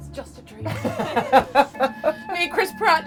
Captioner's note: laughing